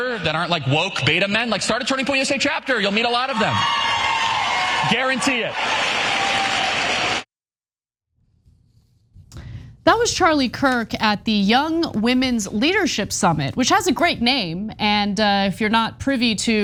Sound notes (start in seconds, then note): 6.6 applause